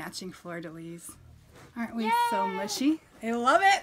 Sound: cheers

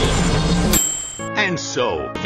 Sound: kitchen timer ding!

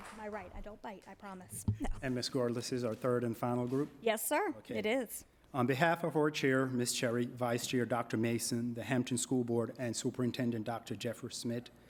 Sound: applause

